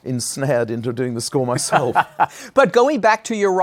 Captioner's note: laughs